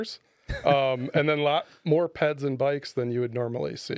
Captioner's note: laughing